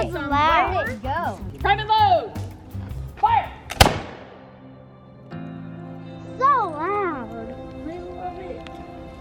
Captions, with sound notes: - Where did it go? - Private load, fire. (musket discharges) (solemn music) - So loud. - I love it.